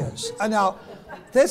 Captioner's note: laughs